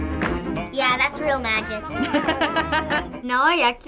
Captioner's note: laughing